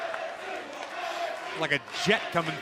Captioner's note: fans chanting